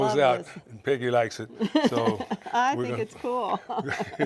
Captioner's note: chuckles